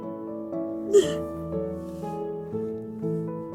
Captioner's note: crying